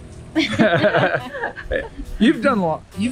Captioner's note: everyone laughing